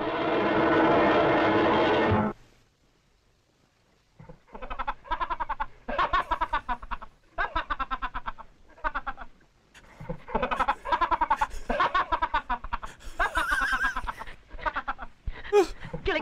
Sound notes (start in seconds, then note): 4.3 sped-up laugh; 9.7 laugh loops; 13.1 laughs